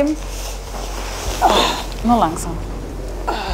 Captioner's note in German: Ächzen